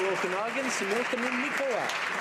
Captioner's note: some Applause